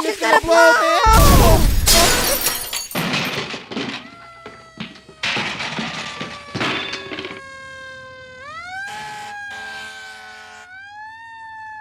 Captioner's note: explosion...then sirens